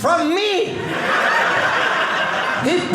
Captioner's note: audience laughing